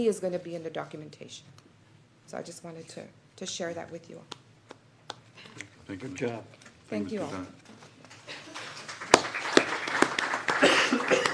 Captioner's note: applause